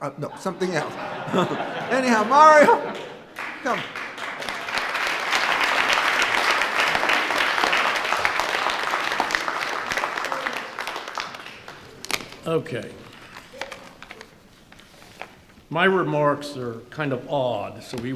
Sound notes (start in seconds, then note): 1.1 audience laughs; 3.6 audience clapping